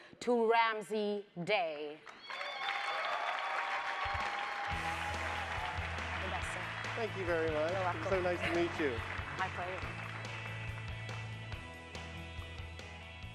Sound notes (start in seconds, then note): 2.4 audience applauds; 10.6 upbeat music